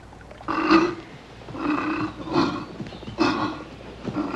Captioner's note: grunting